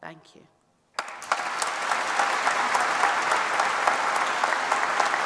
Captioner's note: applause